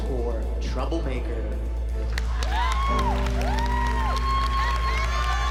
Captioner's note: cheering, applause